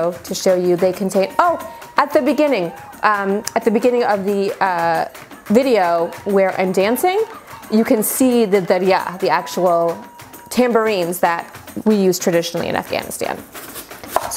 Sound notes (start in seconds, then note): 8.3 speaking in foreign language